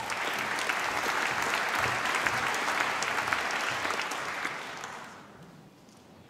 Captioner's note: applause